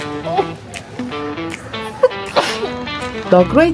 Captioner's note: achoo